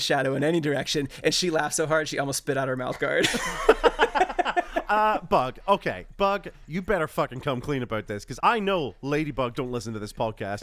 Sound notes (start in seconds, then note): 2.9 laughs